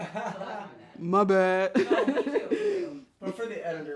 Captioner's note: laughs